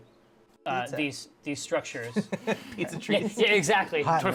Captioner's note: laughs